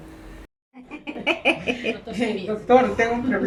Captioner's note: laughs